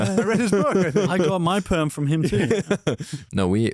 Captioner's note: laughs